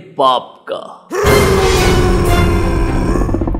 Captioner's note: very angry whirr